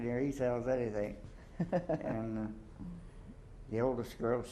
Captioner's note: chuckles